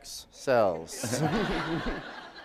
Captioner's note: laughter